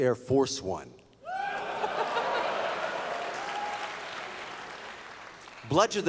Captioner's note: audience cheers